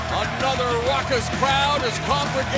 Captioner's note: cheers and applause